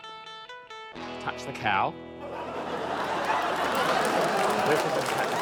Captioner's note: western-movie music; laughter, applause